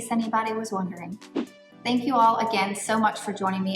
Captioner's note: air whooshing